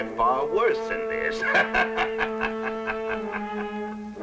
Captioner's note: laughing